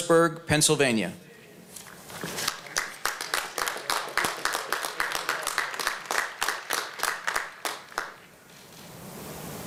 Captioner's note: applause